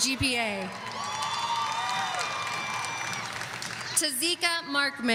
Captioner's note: audience cheering